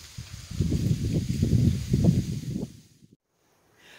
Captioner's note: gentle wind blowing leaves